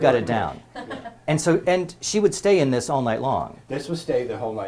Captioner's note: laugh